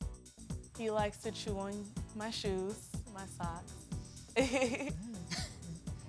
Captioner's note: upbeat music; laughs